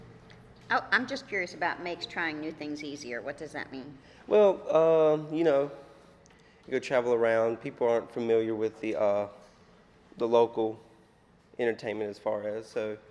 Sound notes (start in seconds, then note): none